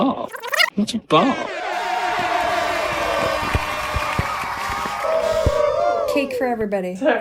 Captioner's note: cheering